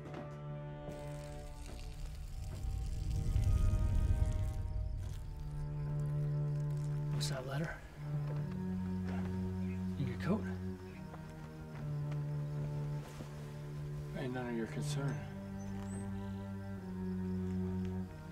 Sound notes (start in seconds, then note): 0.9 urine splattering; 16.3 ominous music continues